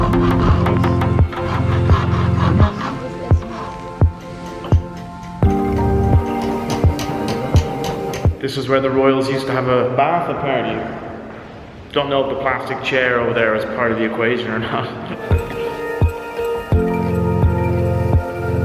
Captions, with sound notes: (tools scraping) (women talking) (tools clanking) - This was where the royals used to have a bath apparently. I don't know if the plastic chair over there was part of the equation or not. (upbeat music)